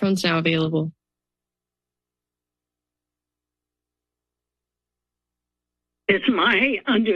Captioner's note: silence